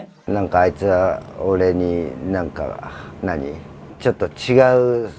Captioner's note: speaking in foreign language